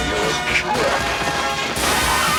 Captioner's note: chuckles